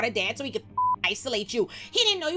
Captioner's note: beep